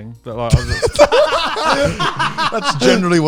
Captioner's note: laughing loudly